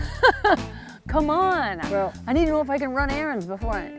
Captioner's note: laughs